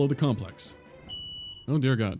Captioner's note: fire alarm